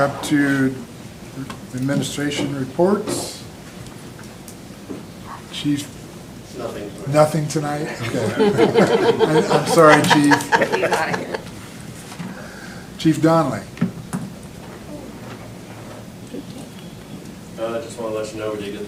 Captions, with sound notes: up to Administration Reports. Chief? Nothing tonight. Nothing tonight. I'm sorry Chief. (laughter) Chief Donnelly? I just want to let you know we did